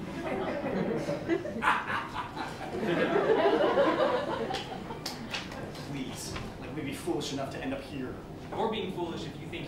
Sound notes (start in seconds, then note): 0.1 laughter; 0.8 Mr. Hughes laughs villainously; 2.8 laughter